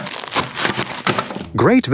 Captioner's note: plastic crinkling